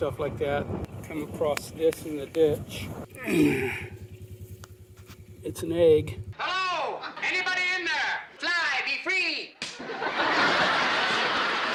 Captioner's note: laughter